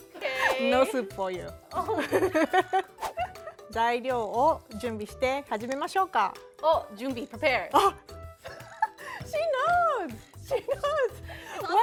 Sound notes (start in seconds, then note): 1.8 laughter; 3.8 speaking Japanese; 8.4 laughter